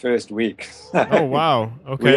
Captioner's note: laughter